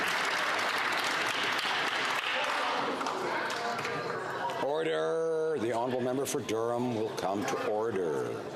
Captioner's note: some Applause